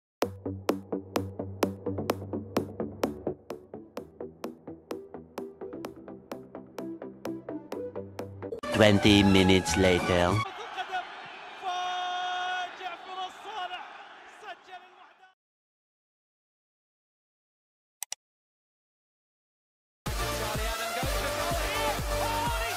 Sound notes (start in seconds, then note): 10.8 announcer Yelling at Microphone; 18.0 mouse Click